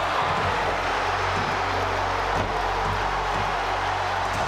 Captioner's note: audience cheers